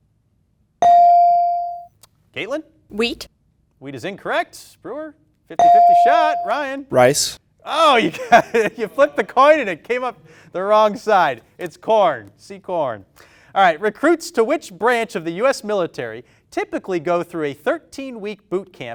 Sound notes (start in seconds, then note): 0.8 bell dings; 5.6 bell dings